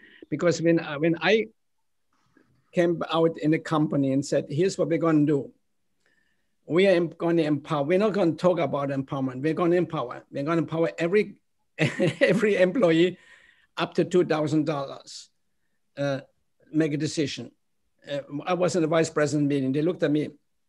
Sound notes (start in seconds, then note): 11.8 laughter